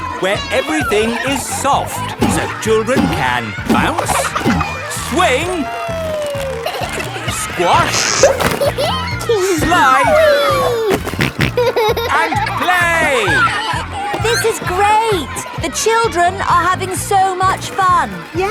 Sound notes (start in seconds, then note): 8.4 giggles; 10.5 snorting